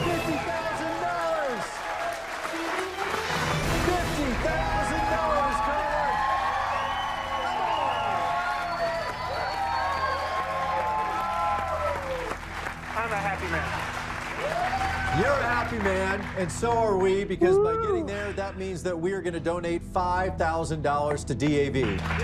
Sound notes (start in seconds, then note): 0.0 cheers and applause; 3.1 triumphant music; 8.7 cheers and applause